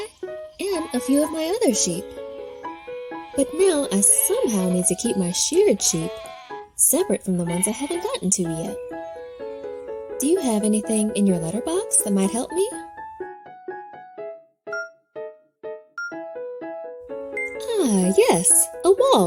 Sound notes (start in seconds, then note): 14.2 cheerful piano music continues; 15.8 timer beeping